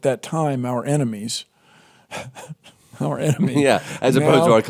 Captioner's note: laughs